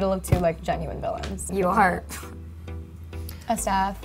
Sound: scoffs

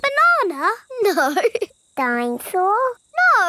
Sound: laughing

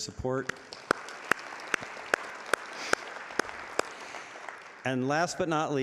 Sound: audience applauding

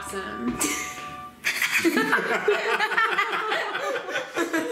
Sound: family laughs

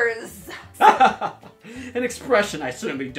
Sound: laughing

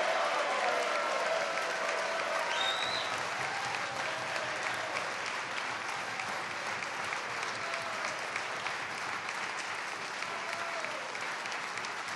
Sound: cheers and applause

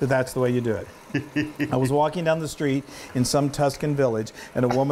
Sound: laugh

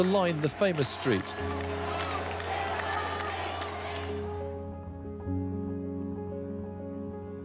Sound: audience cheering; upbeat music

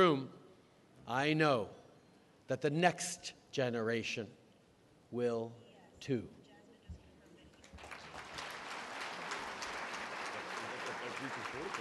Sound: applause

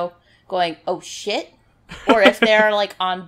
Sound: laughs

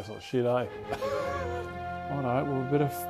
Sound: laughs

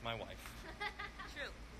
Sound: woman laughs

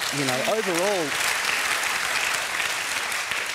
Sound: applause

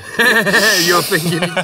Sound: laughing

